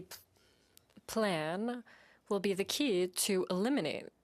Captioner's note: speaking French